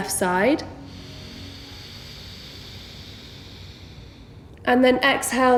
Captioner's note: heavy breathing